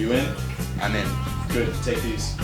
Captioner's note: hacker voice